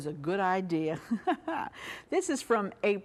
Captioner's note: laughs